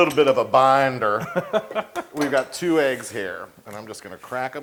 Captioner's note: laugh